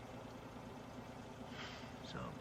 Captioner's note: sigh